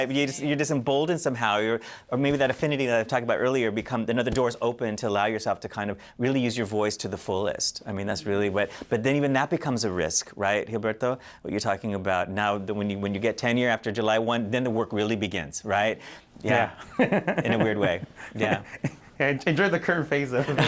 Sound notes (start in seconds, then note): 16.8 laughter; 20.4 laughter